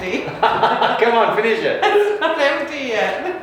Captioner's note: laughing